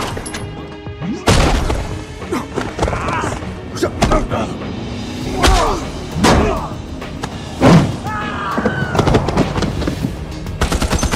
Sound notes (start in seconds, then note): 2.2 both grunting; 8.0 screams